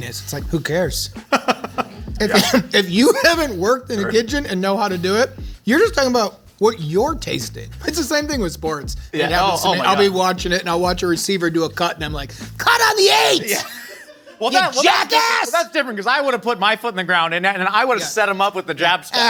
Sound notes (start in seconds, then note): 1.2 laughs